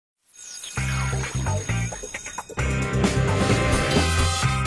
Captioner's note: upbeat music; bell ringing